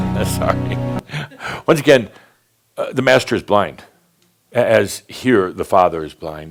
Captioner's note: Adamus chuckles